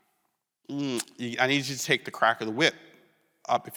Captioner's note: smacks teeth